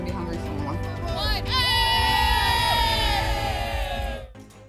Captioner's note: cheering